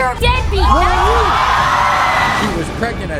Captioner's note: audience cheering